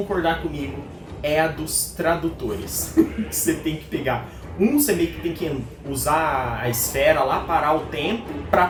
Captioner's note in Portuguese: risadas